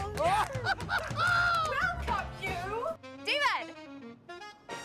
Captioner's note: laughing